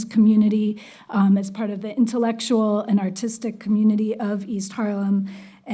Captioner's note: none